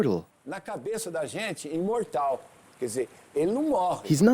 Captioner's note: Portuguese spoken audio